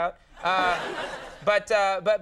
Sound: audience laughing

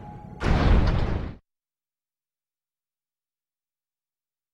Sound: metal arm slams

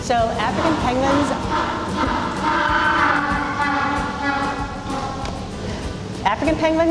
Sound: penguin braying

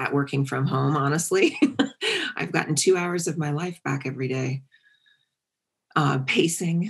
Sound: laugh

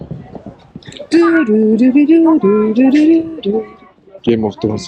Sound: Humming - Game OF Thrones

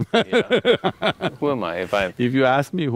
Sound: laughs

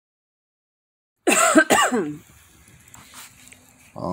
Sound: coughing

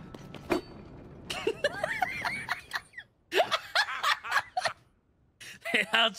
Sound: laughter

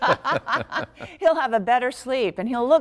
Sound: laughter

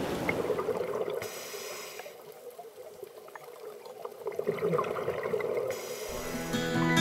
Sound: bubble sounds

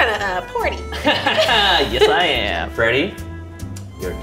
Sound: laughing

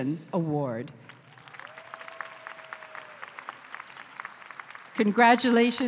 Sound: applause

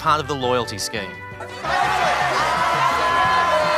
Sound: audience members shout

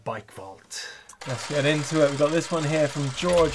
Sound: cogs clattering

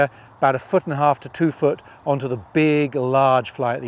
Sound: none

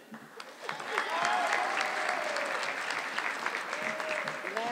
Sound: audience clapping

